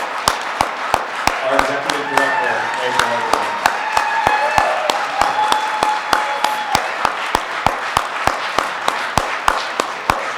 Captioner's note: audience applause